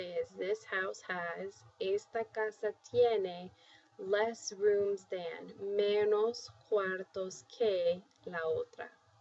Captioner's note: spanish